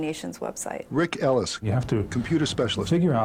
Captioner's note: voiceover